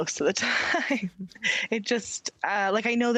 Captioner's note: laughing